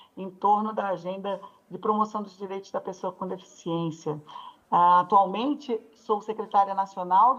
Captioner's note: speaks Portuguese